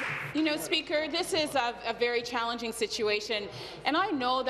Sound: applause

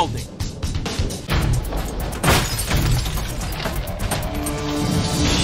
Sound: glass shatters

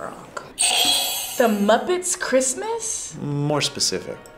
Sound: buzzer rings

